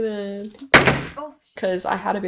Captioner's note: container drops